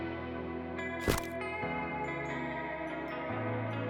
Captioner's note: camera snaps